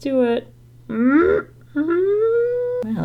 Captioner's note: grunts in concentration and hope